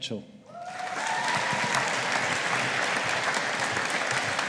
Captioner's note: audience applauding